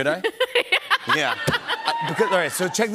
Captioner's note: laughing